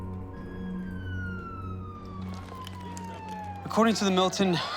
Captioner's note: siren wailing